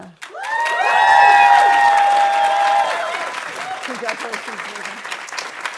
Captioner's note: audience cheering and applauding